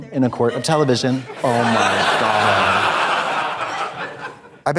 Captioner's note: audience laughs